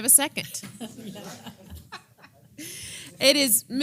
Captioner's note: laugh